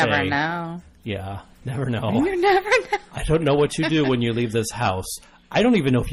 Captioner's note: laughs